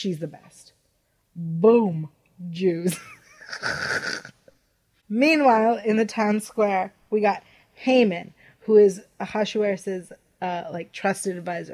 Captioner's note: snicker